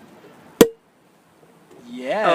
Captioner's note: pop